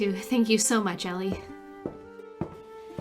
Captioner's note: footsteps retreat